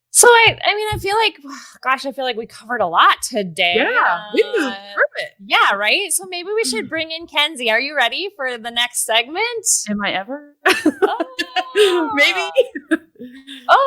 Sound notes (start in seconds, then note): 10.7 laughing; 10.7 laughs